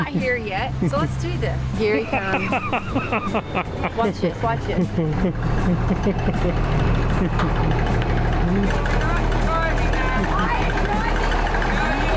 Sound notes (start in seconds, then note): 1.9 laughter; 5.7 combine engine idling